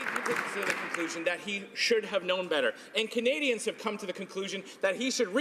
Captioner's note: some Applause